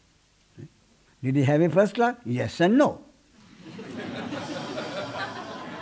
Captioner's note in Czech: smích